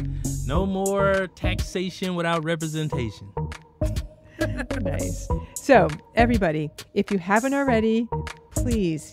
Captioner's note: laughs